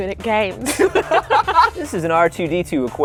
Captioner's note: laughter